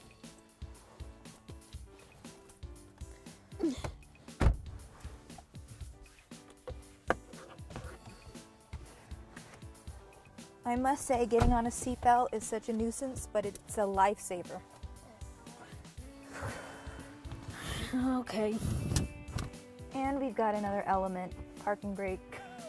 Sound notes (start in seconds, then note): 0.0 upbeat music; 3.7 grunts